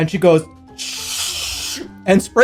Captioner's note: sprays